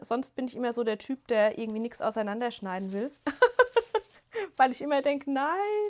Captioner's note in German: gelächter